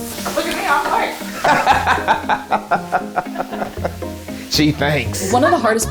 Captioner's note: bright music continues; laughs